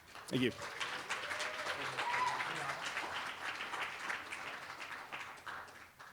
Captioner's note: applause